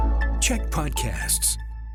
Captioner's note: announcer voice